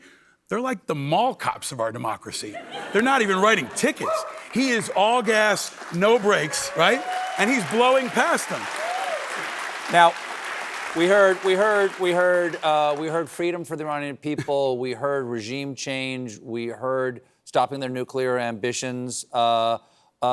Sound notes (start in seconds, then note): 9.0 applause